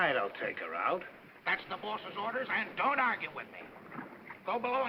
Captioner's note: man's voice